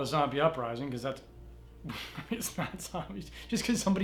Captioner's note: chuckles